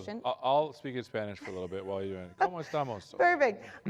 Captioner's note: Spanish speech